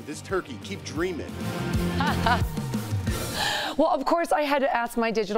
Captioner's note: laughter